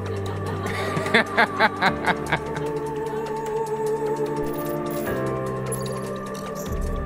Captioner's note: laughs